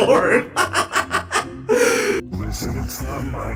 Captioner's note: laughing